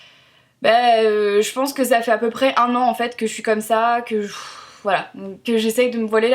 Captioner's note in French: soupir